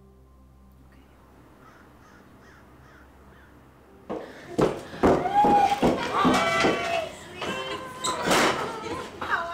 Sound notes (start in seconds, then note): 4.1 footsteps echoing